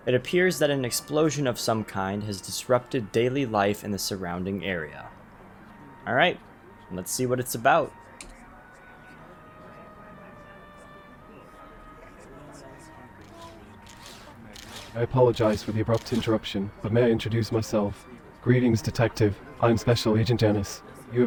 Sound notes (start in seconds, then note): 8.5 background chatter; 8.5 eerie music